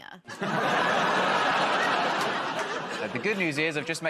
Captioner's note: laughter